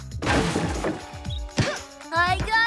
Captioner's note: crash!; thump!